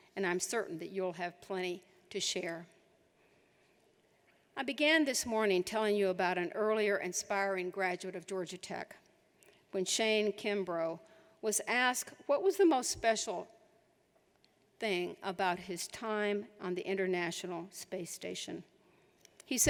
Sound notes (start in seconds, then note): none